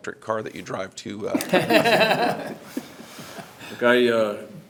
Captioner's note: everyone laughs